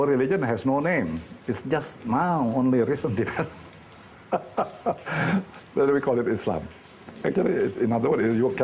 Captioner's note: laughing